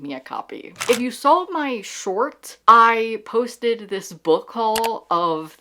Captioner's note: camera Shutter; mouse click